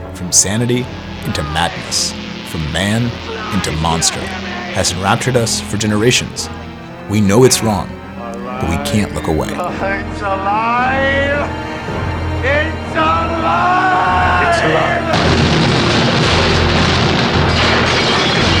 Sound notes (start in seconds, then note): 15.1 blasts and crashes